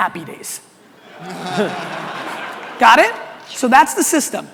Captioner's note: audience laughter